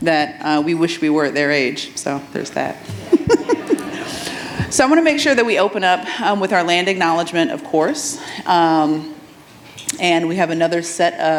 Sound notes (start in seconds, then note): 2.9 audience chuckles; 2.9 laughs